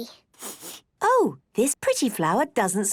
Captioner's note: sniffs